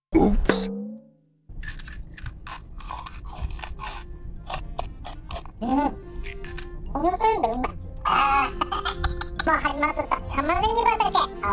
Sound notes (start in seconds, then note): 1.5 sound of eating snacks; 8.9 laughter